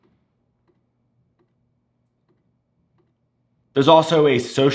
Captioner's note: slow, faint clicking